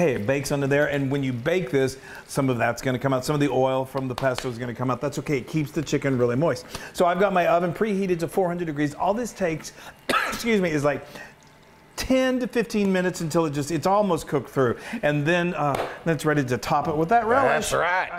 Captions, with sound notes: It bakes under there, and when you bake this, some of that's going to come out. Some of the oil from the pesto is going to come out. That's okay. It keeps the chicken really moist. So I've got my oven preheated to 400 degrees. All this takes is, like, [COUGH] 10 to 15 minutes until it's almost cooked through, and then that's ready to top it with that relish. >> That's right.